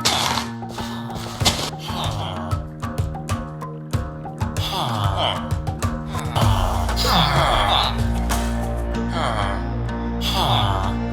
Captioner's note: villager sounds